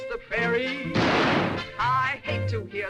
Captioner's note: gunshot